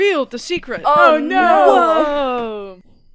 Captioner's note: gasps